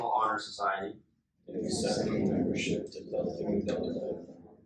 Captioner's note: inductees repeat